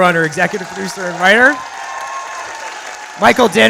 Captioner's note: audience applauds